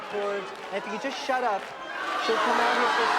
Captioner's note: booing loudly